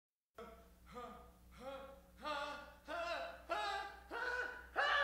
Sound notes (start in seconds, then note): 0.5 band member grunting